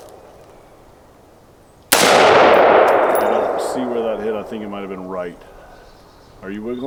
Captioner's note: gunshot